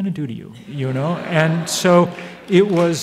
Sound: audience laughs

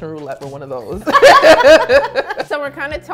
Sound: laughs

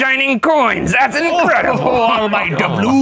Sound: chuckles

